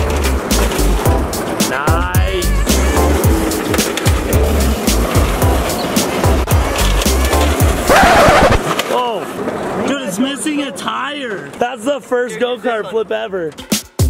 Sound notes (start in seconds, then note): 0.3 light funky music; 7.8 record scratches; 13.5 light funky music